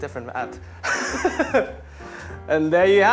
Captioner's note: laughing